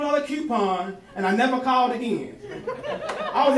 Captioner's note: crowd laughing